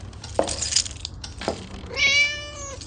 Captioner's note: keys jangle; footsteps; cat meows